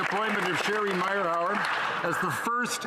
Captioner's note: some Applause